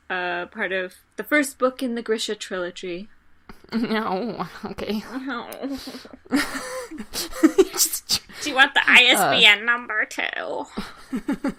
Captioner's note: snooty Noises